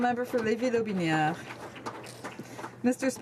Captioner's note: some Applause